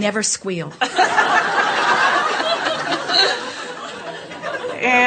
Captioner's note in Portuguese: A platéia ri